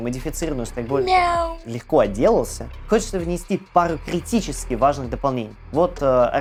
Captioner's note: meow